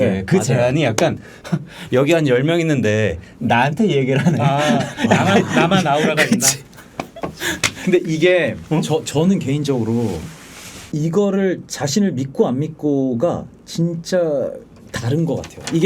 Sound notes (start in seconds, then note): 1.4 laughing